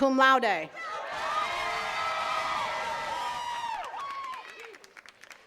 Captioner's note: attendees cheering and clapping